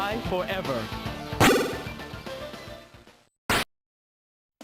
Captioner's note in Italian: Effetto sonoro di calcio